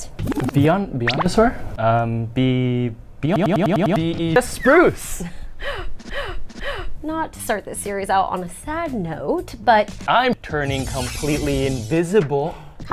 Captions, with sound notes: ( rapid bubbles ) ( rapid bubbles ) Beyond... Beyond... Beyondasaur? Beyondasaur? ( silly sound ) ( silly sound ) um... um... Bee.... Bee.... Beyoeyoeyoeyoeyoeyo Beyoeyoeyoeyoeyoeyo Bee-eeB Bee-eeB Just Spruce! Just Spruce! ( deep breath ) ( deep breath ) ( deep breath ) ( deep breath ) ( deep breath ) ( deep breath ) Not to start the series out on a sad note... Not to start the series out on a sad note... but- but- I'm- turning c o m p l e t e l y i n v i s i b l e !~ I'm- turning c o m p l e t e l y i n v i s i b l e !~ ( sci-fi phasing sound ) ( sci-fi phasing sound )